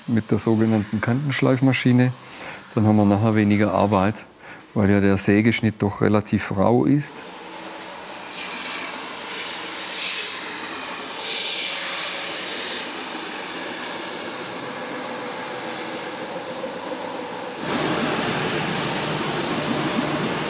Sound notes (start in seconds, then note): 9.7 loud hissing of the saw; 17.5 rattling, hissing